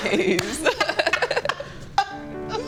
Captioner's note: both laughing; sentimental music